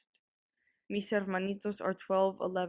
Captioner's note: voice actor speaking foreign